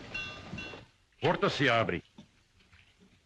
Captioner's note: door opens